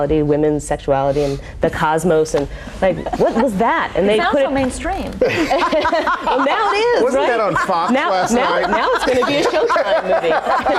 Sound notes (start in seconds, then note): 3.4 laughing; 5.2 laughing